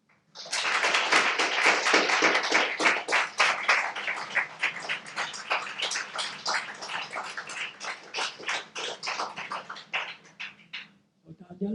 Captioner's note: audience clapping